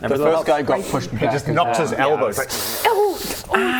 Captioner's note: tsss